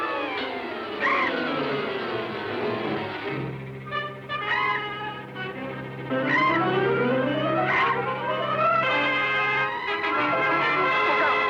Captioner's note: screeching